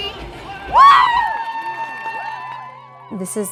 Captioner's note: crowd cheering